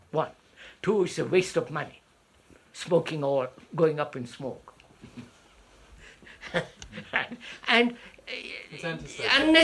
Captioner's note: laughs